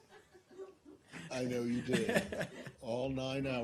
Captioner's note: laughter